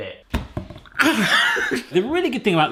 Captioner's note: clunking; laughing